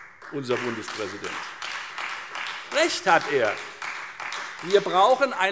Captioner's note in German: Beifall Freie Demokraten